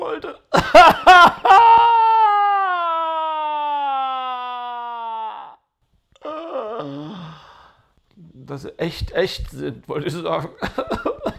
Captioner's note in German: Weinen; Weinen